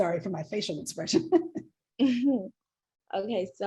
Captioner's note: laughs